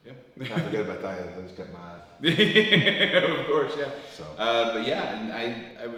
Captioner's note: laugh